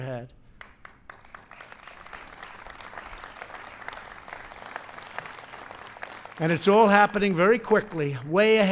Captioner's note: applause